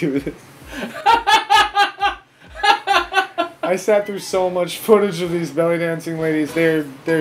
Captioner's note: laughter